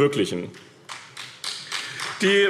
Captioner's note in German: Beifall BÜNDNIS 90/DIE GRÜNEN und CDU